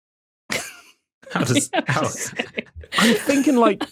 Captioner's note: guests cracking up